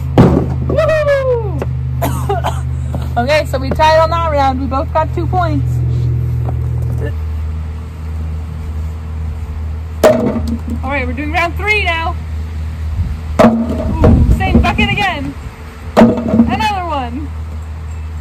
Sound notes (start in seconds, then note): 2.0 cough